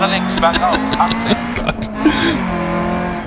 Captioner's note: laughs